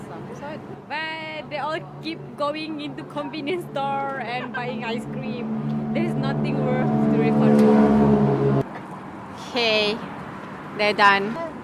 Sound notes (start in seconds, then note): 4.1 laughing